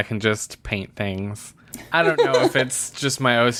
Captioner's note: laughs